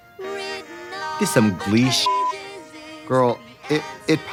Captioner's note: beeping